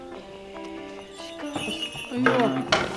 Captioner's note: Shrine bells jangle